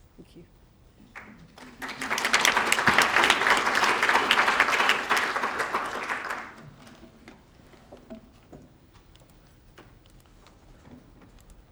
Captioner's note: applause